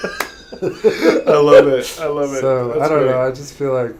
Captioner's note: laughter